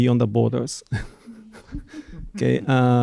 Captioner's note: laughs